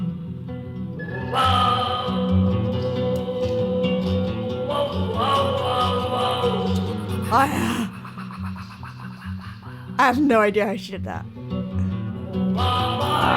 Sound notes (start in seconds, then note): 1.4 continues singing; 7.2 gasping; 7.4 continues singing; 12.9 continues singing; 12.9 mimicking the singing